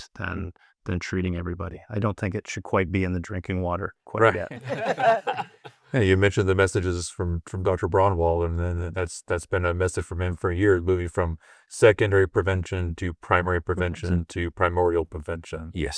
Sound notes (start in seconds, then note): 4.4 everyone laughing